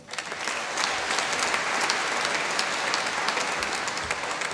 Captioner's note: applause